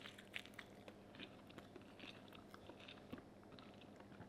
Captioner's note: munching